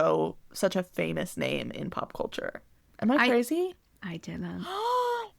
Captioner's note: gasp